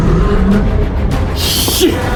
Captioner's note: monster growling